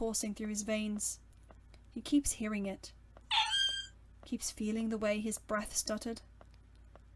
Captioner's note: Sirius’s whine